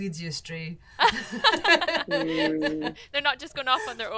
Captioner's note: laughing